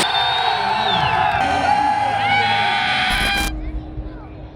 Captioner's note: crowd cheering